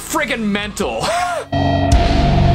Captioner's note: cough